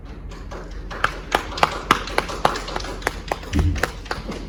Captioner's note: light applause